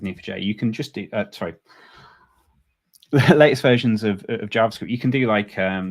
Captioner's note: chuckles